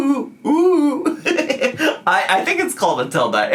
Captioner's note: laughs